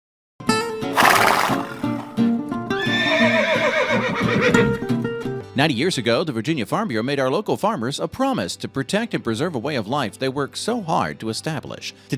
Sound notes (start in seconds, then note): 2.7 horse whinnies